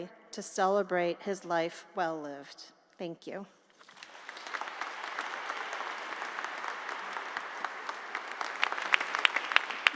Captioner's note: applause